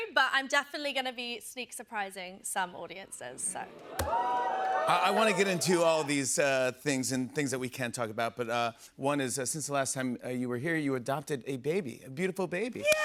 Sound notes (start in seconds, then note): 3.6 audience oohs